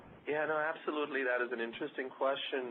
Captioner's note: voiceover